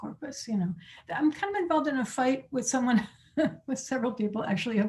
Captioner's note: laughing